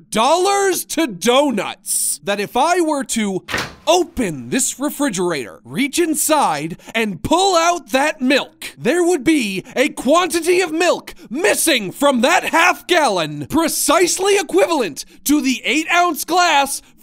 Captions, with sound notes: dollars to donuts that if I were to (refrigerator opens) open this refrigerator, reach inside, and pull out that milk there would be a quantity of milk missing from that half gallon precisely equivalent to the eight ounce glass